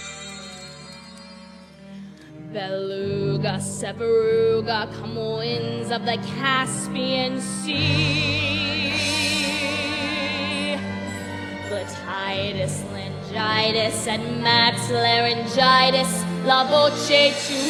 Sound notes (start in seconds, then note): 1.7 bell; 11.0 singing